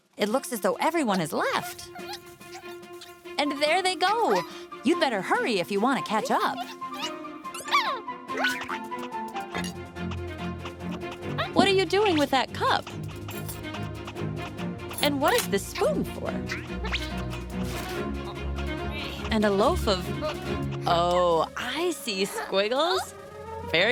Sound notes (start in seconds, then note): 6.1 squeaking